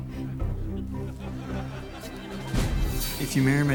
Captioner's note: audience laughs